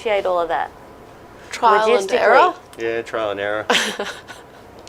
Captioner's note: laughs